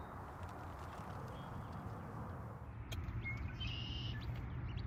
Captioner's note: birds chirp